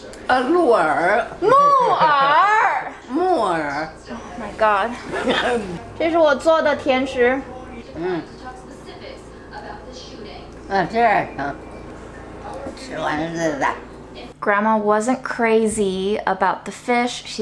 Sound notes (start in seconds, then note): 0.2 grandma speaking Chinese; 1.5 speaking Chinese; 3.2 grandma speaking Chinese; 5.1 grandma laughing; 5.3 sighs; 6.0 speaking Chinese; 10.8 grandma speaking Chinese